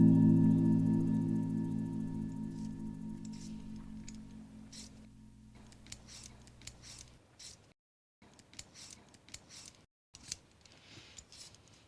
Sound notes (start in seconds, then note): 3.2 scraping